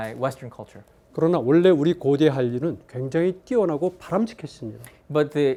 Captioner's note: speaking in Korean